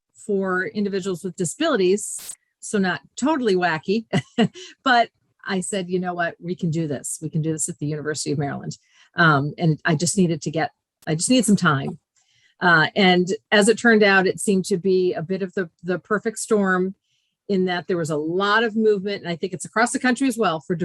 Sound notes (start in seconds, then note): 4.1 giggles